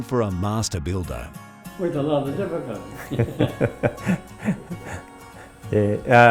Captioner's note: laughs